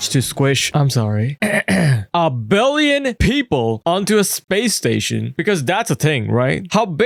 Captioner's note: clears throat